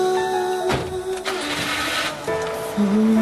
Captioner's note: engine starts